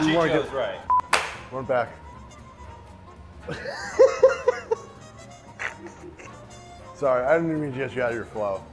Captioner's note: laughing